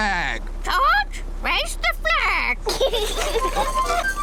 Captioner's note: children giggle